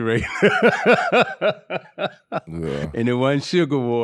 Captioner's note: laughing